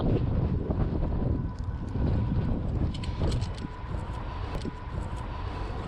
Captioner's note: wind blowing